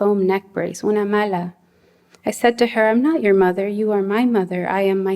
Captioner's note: non-english speech